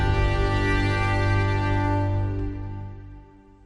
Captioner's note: none